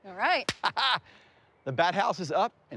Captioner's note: laughs